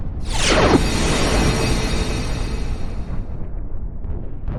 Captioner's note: wind whooshing